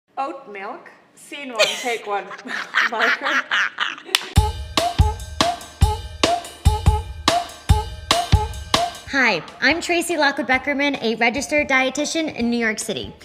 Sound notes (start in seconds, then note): 1.6 laughing; 4.2 upbeat music